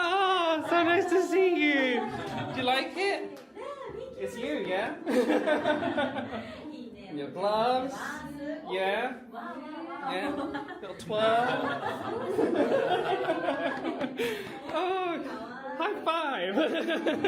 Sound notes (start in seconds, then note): 11.9 Cast Members laugh